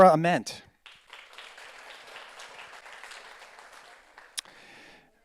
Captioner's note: audience applauds